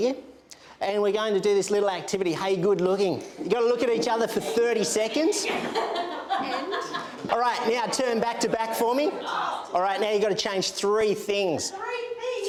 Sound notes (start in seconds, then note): 5.2 classroom practitioners laugh and chat